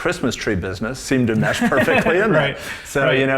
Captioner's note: laughs